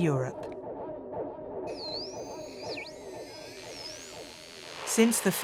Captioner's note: radio frequency hums